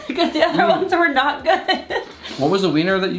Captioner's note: laughs